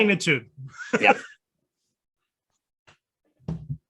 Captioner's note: chuckles